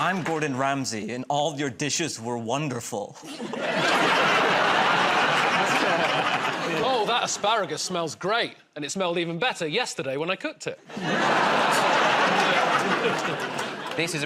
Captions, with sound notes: -I'm Gordon Ramsay, and all your dishes were wonderful. [ Laughter ] -Oh, that asparagus smells great. And it smelled even better yesterday when I cooked it. [ Laughter ]